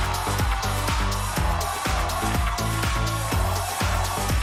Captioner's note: crowd chanting